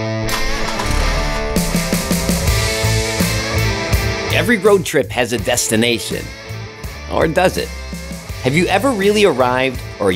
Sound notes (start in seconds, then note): 0.0 engine starts